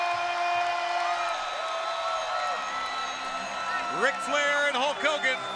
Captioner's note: crowd cheering